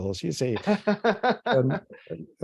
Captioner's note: laughs